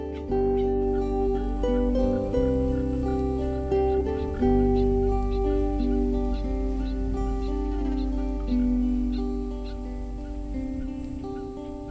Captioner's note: frogs calling